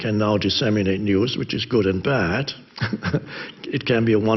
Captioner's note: chuckles